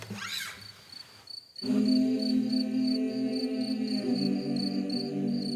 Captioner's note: crickets chirping; humming